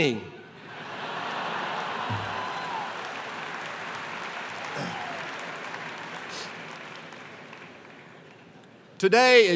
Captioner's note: laughter and applause